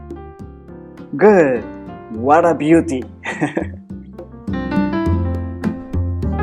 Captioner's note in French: rires